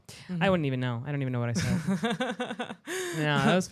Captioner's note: laughs